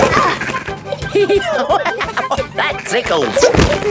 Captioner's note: laughing; giggling